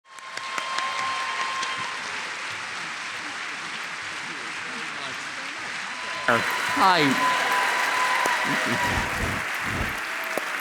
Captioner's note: cheers and applause